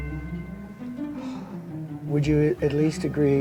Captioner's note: sigh